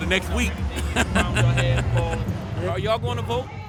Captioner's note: laughs